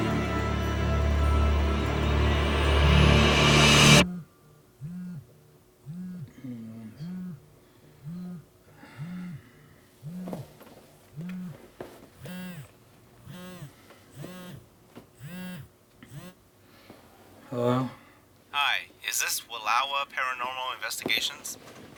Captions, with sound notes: (phone buzzing) Hello? Hi, is this Wallowa Paranormal Investigations?